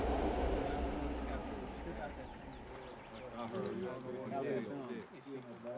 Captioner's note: background chatting